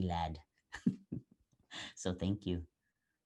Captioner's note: laugh